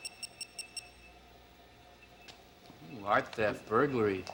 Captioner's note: beeping